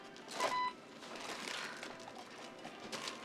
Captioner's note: scanner beeps dierffent tone